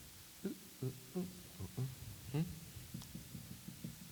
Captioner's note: humming